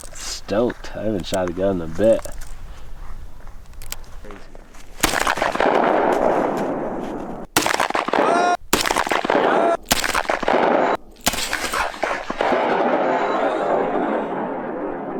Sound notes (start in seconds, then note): 4.9 gunshot; 7.4 repeating gunshots